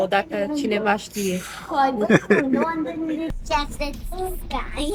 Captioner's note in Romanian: râsete